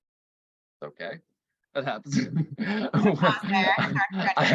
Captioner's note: laughs